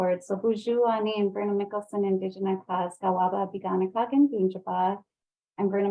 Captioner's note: speaking in foreign language